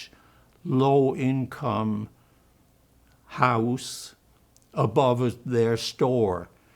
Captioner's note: german